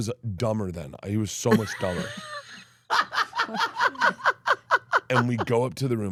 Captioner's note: Steph laughs